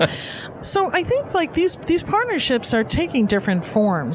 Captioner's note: laughs